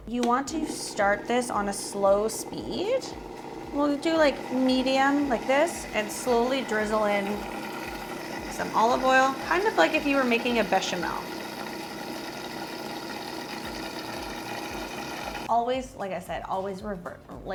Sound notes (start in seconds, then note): 11.5 blender whirring